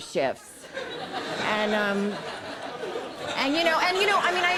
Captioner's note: audience laughing